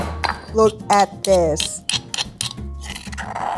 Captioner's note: scraping